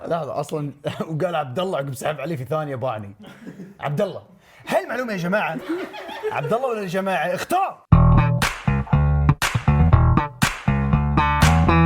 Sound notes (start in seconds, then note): 3.8 mockingly